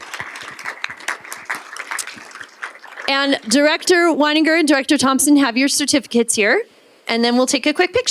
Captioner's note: applause